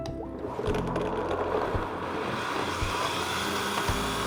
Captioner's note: blender whirring